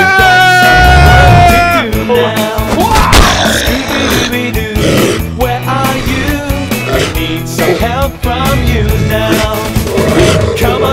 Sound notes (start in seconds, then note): 4.7 werewolf snarls